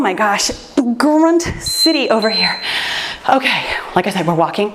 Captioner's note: timer beeps